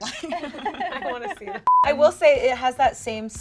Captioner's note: laughing; beeping